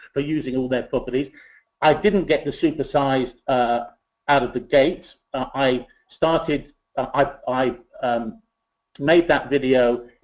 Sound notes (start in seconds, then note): none